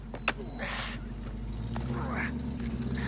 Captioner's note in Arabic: خرخرات